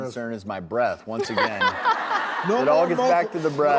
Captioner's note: audience laughs